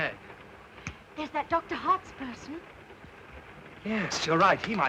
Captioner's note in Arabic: أصابع تنقر